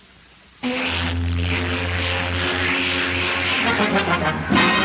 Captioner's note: ship's horn